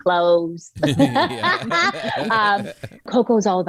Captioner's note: laughs